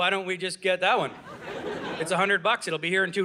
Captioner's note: audience laughing